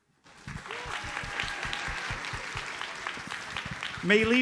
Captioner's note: audience applauds